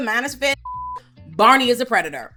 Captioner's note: beep